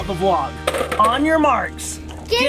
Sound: eyeballs rustling

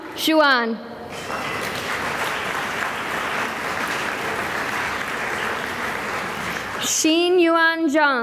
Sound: applause

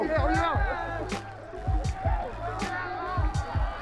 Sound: cheering

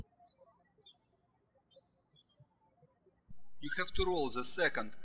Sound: birds chirping

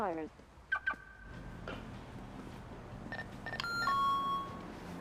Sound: car alarm beeps; door alarm beeps

